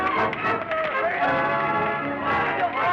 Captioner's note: overlapping yelling